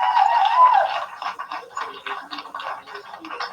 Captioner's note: applause